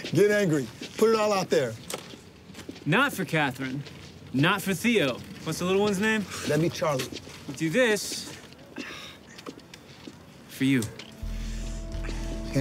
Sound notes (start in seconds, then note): 8.9 groans